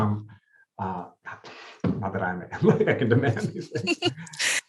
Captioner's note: chuckles